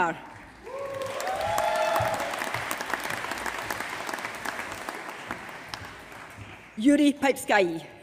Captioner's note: applause